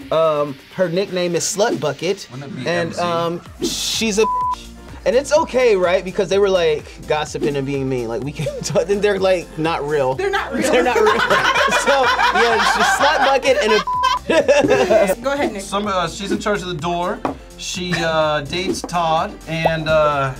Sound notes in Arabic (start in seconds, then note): 1.7 يتمتم; 4.2 صوت تنبيه; 10.6 الجميع يضحكون; 13.0 صافرة